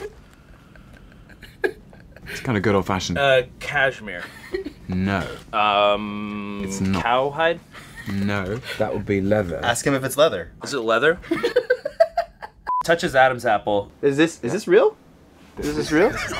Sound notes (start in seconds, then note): 11.0 laughing